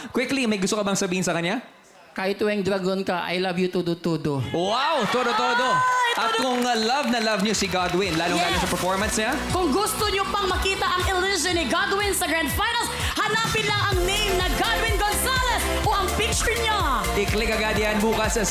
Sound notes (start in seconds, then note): 4.5 cheering